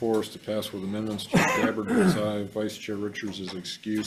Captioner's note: man coughs